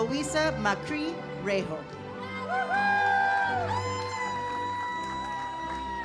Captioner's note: audience cheers